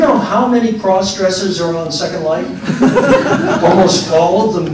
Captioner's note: laughter